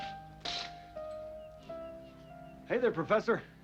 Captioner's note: curtains scraping